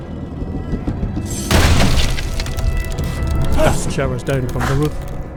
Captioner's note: banging on the roof